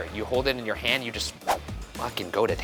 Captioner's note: graphic whooshing